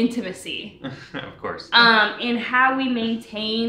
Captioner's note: chuckles